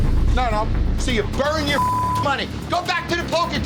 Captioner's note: beep